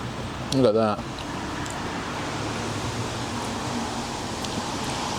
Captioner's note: sizzling